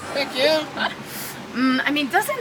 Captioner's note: laughing